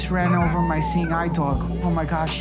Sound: dog whimpering

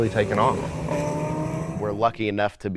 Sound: car engine roaring

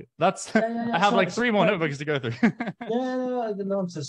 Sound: chuckles

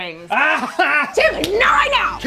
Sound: cries

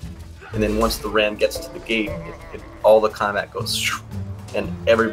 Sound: makes wooshing noise

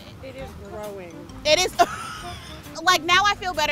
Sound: laughs

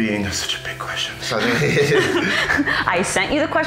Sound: both laughing

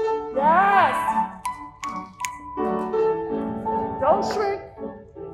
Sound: instructor snapping along to the music

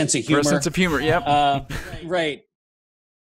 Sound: laughs

